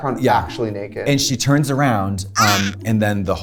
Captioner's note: gasps